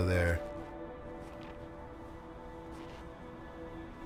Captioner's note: footsteps in snow